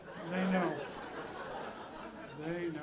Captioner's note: audience laughing